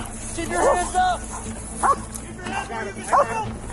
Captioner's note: dog barking